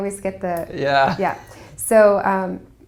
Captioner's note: laugh